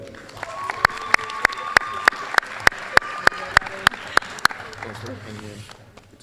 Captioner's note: applause